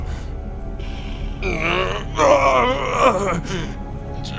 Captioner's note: sounds of hellish torment